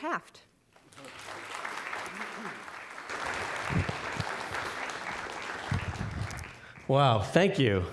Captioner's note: applause